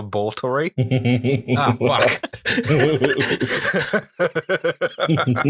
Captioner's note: laughter